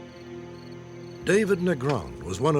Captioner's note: insects chirping